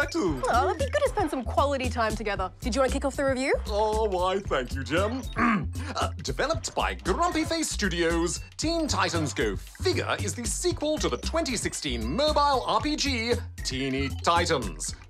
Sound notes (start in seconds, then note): 5.3 clears throat